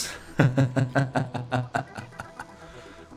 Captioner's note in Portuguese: Risadas sarcástica